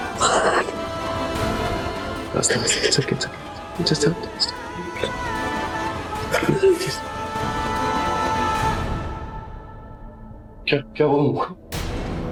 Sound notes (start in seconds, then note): 0.1 gasping; 6.2 Aastha sobbing